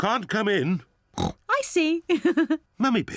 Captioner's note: oinks; laughs